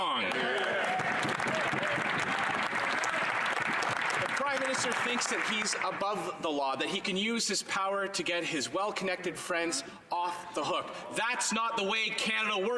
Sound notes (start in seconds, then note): 3.9 some Applause